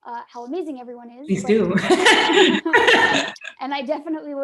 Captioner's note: laughing